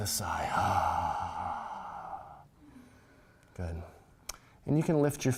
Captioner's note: loud exhaling